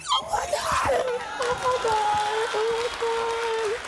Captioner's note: cheering